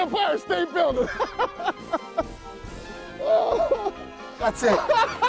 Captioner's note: laughs